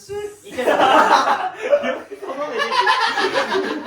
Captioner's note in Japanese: 笑い